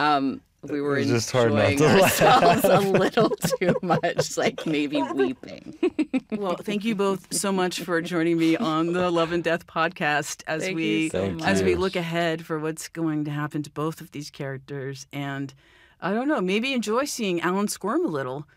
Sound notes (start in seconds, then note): 5.2 laughs